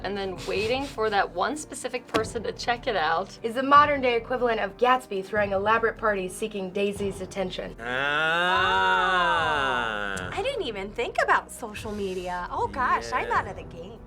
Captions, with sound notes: and then waiting for that one specific person to check it out..." - "...is the modern day equivalent of Gatsby throwing elaborate parties seeking Daisy's attention." - Ahh. - Ohh! (clicks tongue) I didn't even think about social media. Oh gosh, I'm out of the game.